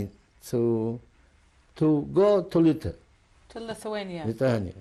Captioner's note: non-english